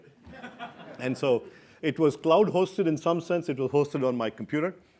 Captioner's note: laugh